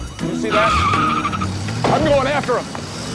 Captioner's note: tires screeching